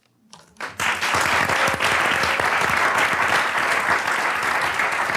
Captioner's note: audience applauds